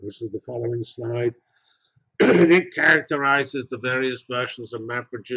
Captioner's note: cough